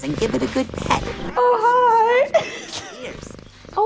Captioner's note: laughs